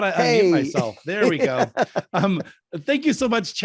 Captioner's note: laughs